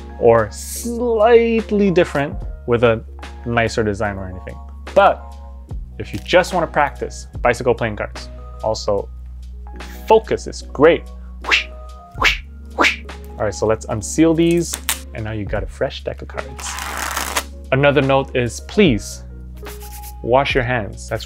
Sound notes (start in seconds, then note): 11.5 whooshes; 16.5 cards riffling